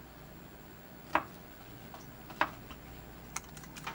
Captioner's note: chops